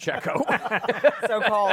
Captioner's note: laughter